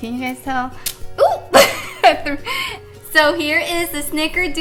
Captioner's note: laughing